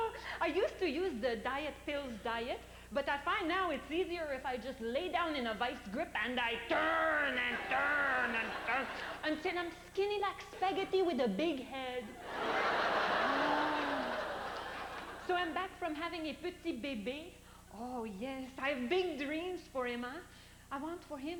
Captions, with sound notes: I USED TO USE THE DIET PILLS DIET, BUT I FIND NOW IT'S EASIER IF I LAY DOWN IN A VICE GRIP AND I TURN AND TURN AND TURN UNTIL I'M SKINNY LIKE SPAGHETTI WITH A BIG HEAD. [laughter] OH... SO I'M BACK FROM HAVING UN PETIT BEBE. OH, YES, I'VE BIG DREAMS FOR HIM, UH?